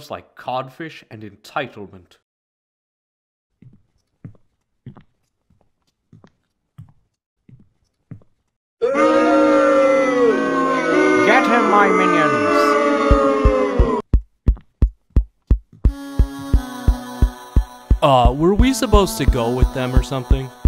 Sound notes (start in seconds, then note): 3.6 footsteps; 8.8 crowd booing